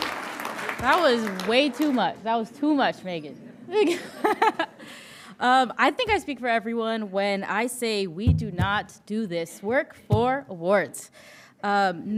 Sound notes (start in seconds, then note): 4.8 laughing